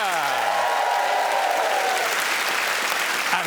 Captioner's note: cheers and applause